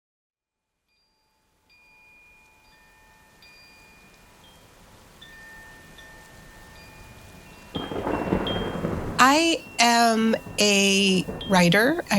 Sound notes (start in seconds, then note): 0.6 gentle music; 7.7 thunder rumbling